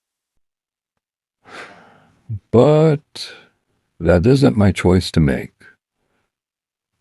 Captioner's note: sighing